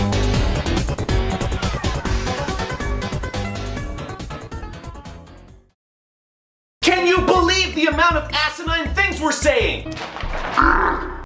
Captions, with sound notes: CAN YOU BELIEVE THE AMOUNT OF ASININE THINGS WE'RE SAYING?! [violent eck noises]